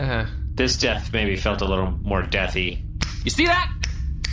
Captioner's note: snapping